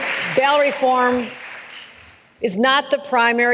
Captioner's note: applause